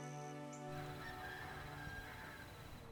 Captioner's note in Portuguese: galo cantando